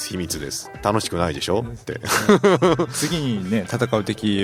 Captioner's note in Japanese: 笑い